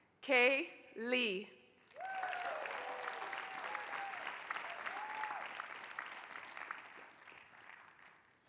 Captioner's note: applause